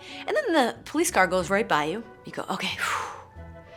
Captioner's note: sighing